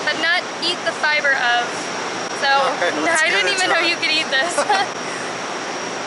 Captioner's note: laughter